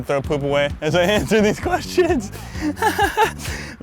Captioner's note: laughing